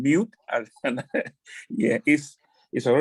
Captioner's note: laughs